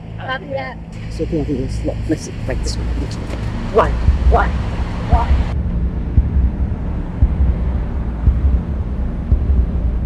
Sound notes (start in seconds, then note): 1.4 agent speech distorting; 7.5 tense music